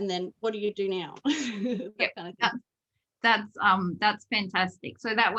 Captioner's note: giggles